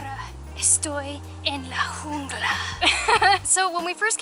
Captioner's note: laughter